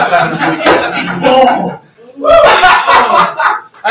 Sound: laughter

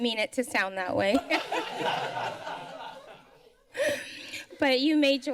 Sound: laughter

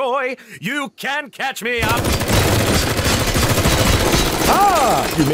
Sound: gunshots bang

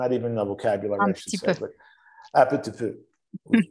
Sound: speaks in French

